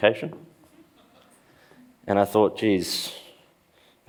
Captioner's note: laughs